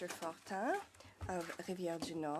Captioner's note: speaking French